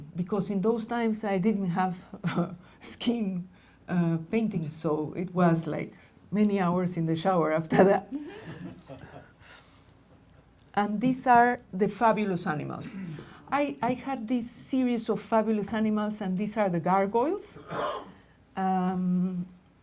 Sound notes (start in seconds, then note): 8.2 laughing